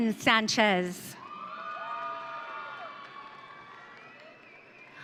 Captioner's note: audience cheering